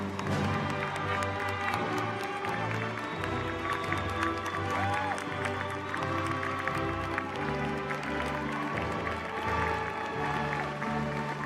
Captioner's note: applause